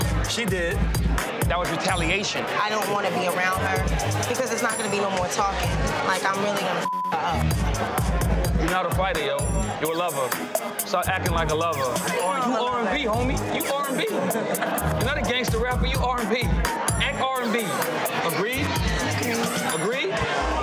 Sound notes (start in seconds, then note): 6.8 beeps